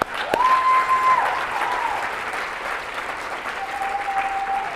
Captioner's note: applause